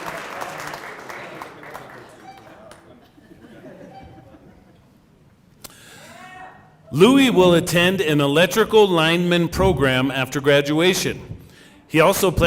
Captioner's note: cheering and applause